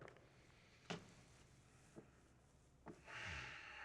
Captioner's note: inhales, exhales deeply